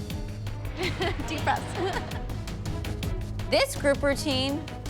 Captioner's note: chuckles